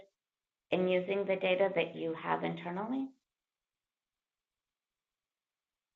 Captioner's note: pause